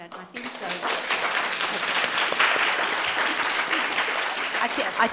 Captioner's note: applauding